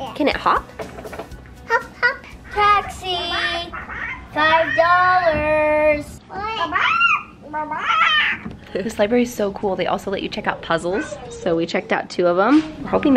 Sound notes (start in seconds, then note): 6.5 bird squaking